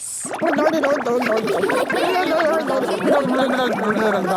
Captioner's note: children laughing